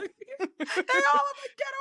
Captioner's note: both laughing